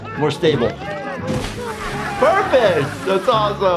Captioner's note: water splashes